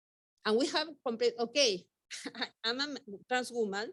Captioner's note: chuckles